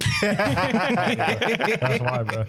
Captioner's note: laughing